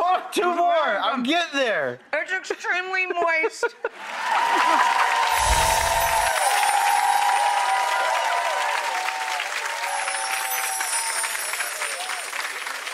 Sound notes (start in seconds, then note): 3.9 audience applause; 5.3 ethereal chimes